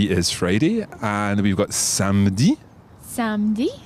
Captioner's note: speaks in foreign language